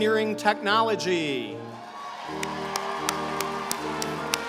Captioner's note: applause